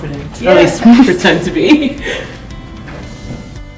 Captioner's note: laughing